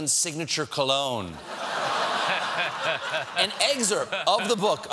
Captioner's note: laughter